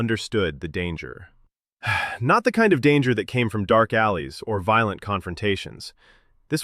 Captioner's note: sighs